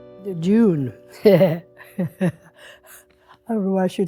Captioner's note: laughs